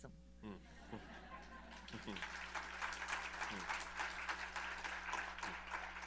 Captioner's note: laughter, applause